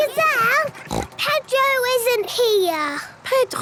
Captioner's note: snort